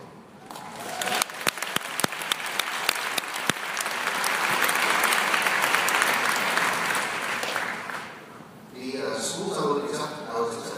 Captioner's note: applause